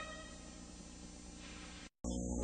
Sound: VHS static

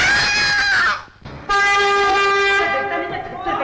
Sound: horn Honking

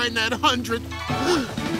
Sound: gasping

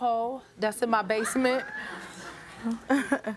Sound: laughter

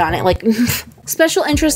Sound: shudders

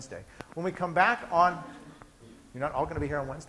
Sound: scattered laughing

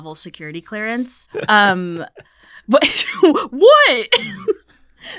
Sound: laughing

